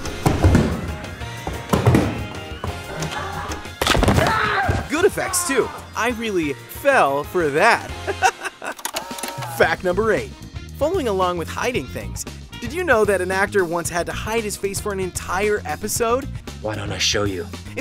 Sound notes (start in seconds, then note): 4.1 screaming; 7.8 laughing